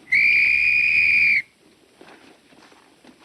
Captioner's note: blowing whistle